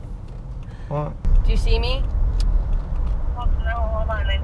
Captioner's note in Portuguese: ao telefone